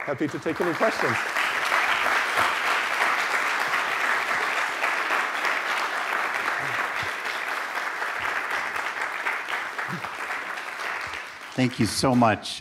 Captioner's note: applause